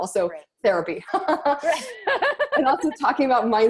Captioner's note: both laughing